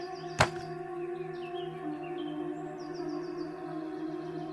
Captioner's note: bones thudding